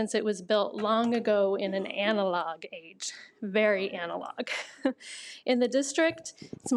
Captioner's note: laughs